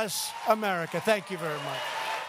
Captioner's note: applause